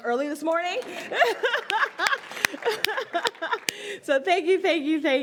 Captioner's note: audience applauds; laughs